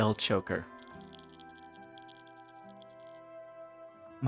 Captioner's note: jingles